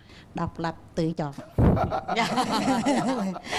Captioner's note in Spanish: risa